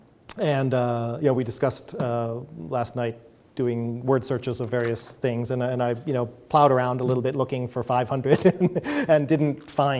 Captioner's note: chuckles